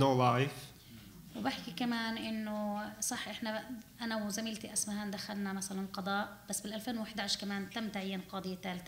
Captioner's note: speaking arabic